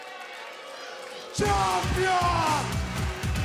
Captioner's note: cheers and boos